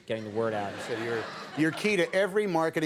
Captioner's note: audience laughing